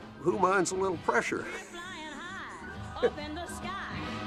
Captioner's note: laughs